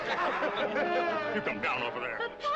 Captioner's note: all laughing